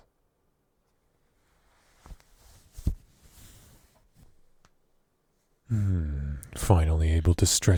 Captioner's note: out of bed noise